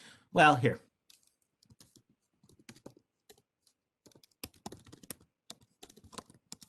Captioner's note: keyboard typing